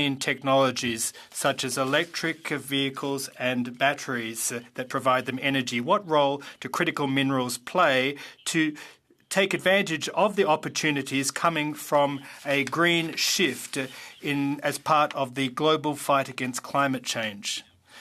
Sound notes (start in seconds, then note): 2.4 speaking French